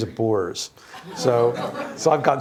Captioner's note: laughter